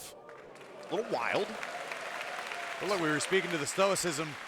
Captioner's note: audience applauding